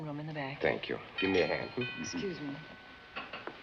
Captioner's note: door bell